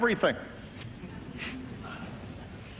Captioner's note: laughter